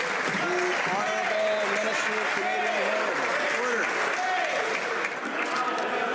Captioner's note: some Applause